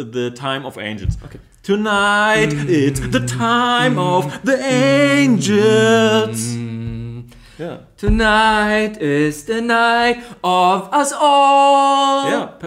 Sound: angels voice

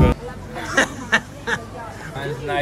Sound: laughing

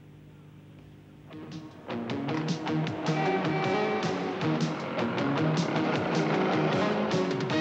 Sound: traffic humming; upbeat music

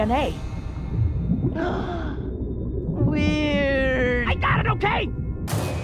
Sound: gasps

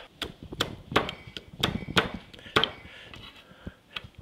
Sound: knife thuds

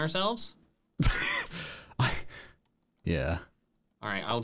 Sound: laughs

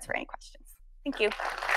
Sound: audience applauding

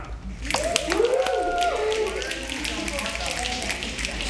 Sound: snapping

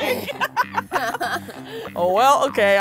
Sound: laughs

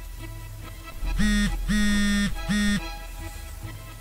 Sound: phone buzzing

